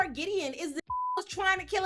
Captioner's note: beep